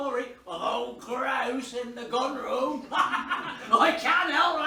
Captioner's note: laughs